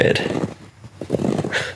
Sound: fingers strumming rubber

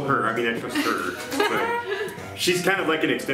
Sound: laughing

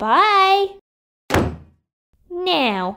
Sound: slam!

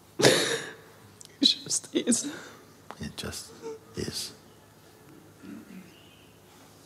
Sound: crying

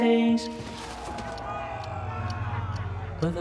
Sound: cheering

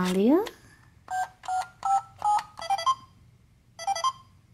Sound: beeping

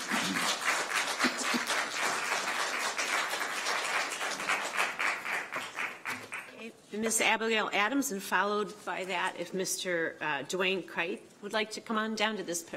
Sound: applause

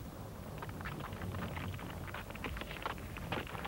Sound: crackling

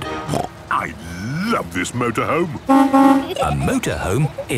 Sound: honking

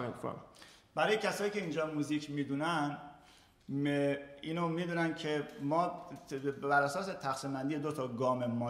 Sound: speaking in farsi

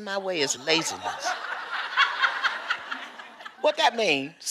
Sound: laughter

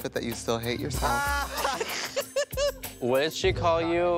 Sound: laughing

